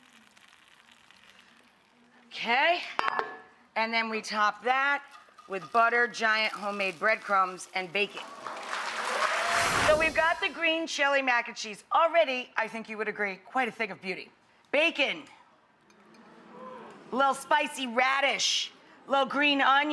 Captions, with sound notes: Okay, and then we top that with buttered, giant homemade breadcrumbs and bake it. (audience applause) So we've got the green chili mac & cheese all ready, I think you would agree, quite a thing of beauty. Bacon, little spicy radish, little green onion,